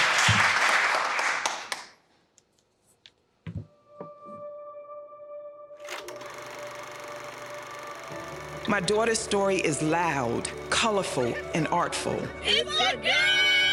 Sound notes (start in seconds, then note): 4.3 gentle music; 5.9 tape rolling